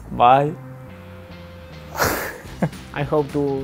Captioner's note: laughing